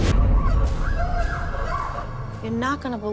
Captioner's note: woman screaming